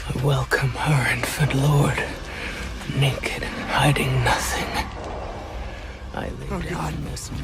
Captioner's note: game audio